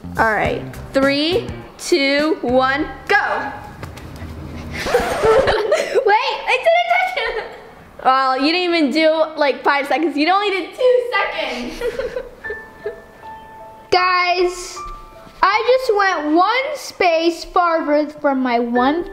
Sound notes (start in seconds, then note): 4.5 record scratching; 12.0 sad piano